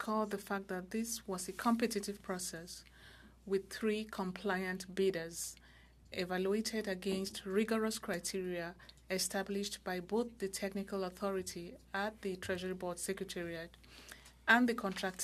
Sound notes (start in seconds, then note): 1.0 speaking French